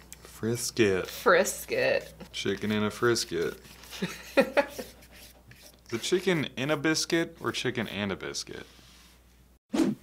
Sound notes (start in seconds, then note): 3.9 laughs